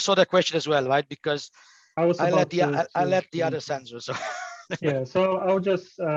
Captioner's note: chuckles